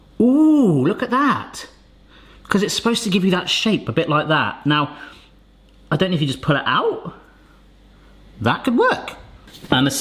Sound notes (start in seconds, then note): none